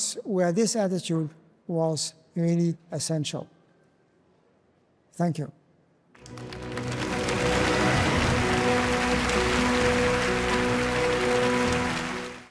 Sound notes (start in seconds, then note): 6.1 audience applauds; 6.2 dramatic music